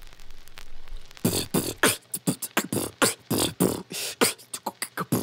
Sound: beat boxing

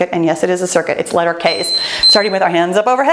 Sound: timer beeps

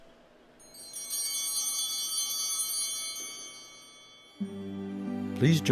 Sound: bells ringing

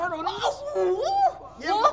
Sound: mocking

